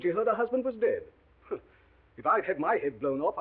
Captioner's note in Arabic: يسخر